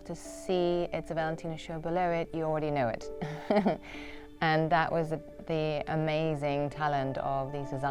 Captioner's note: laughter